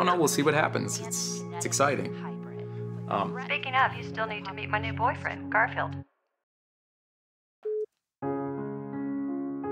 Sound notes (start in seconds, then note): 3.2 over The Phone; 7.7 call ends